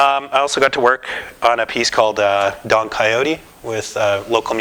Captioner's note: none